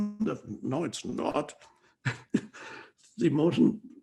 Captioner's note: laughs